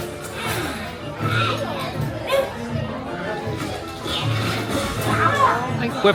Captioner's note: movie character sighs and grumbles